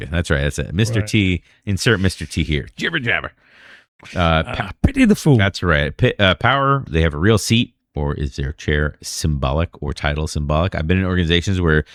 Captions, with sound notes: That's right. That's a Mr. T insert Mr. T here. Jibber Jabber Jabber [UH] [UH] the food that's right [UH] power they have real seat or is their chair symbolic or title symbolic. I've been organizations where